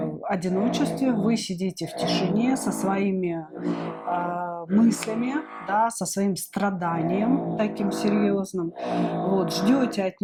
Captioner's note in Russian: фыркает